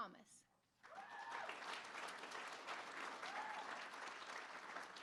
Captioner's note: applause; cheering